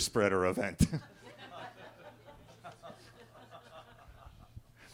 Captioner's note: attendees laughing